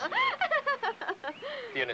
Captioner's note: Rose laughs